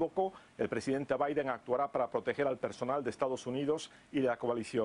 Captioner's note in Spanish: habla en ingés